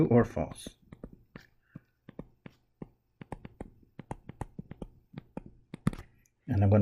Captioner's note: tapping Sounds